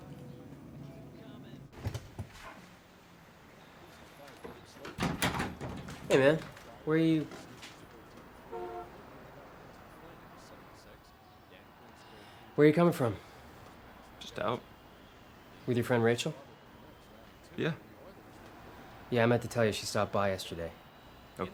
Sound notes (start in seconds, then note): 3.6 baseball game plays on TV